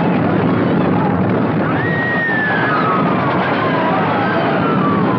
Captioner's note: women Screaming